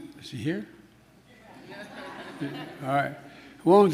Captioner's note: laughter